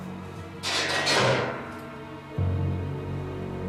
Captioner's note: metal clanking